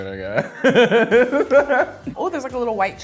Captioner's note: laughing